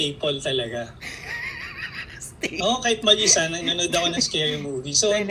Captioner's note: laughter